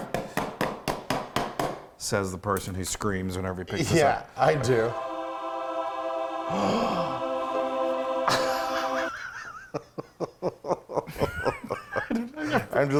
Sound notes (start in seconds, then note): 0.1 knife edge banging on pan; 4.3 angels singing; 6.5 gasping; 8.2 laughing